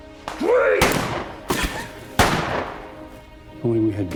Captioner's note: gun firing